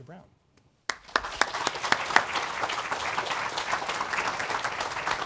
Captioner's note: applause